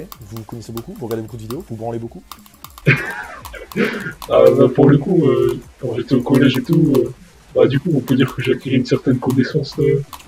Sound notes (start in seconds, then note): 2.8 laugh